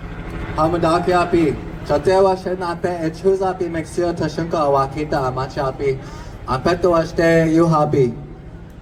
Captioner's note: speaking in his mother tongue